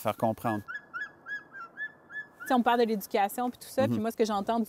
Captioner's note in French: cri de l'oiseau